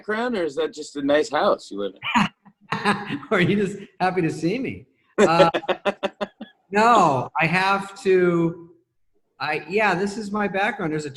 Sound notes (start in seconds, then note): 2.6 laughs